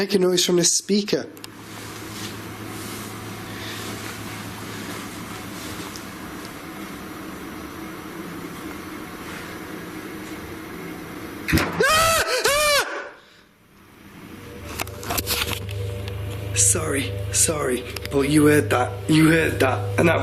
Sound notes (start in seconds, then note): 11.7 screaming; 11.8 loud banging